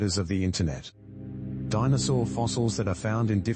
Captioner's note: electrical noise